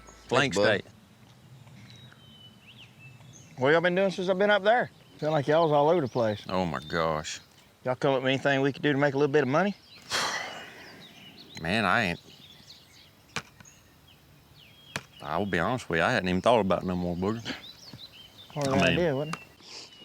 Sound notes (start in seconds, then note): 10.0 sighs; 14.0 birds chirping